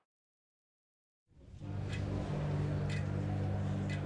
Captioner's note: clock ticking